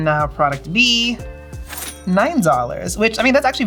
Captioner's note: cash register dings